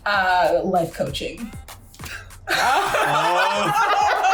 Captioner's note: laughs